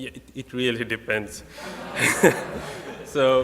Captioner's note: laughing